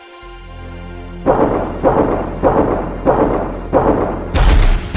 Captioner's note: steps thudding